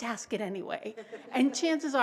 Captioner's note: laughter